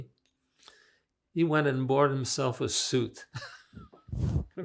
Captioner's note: laughing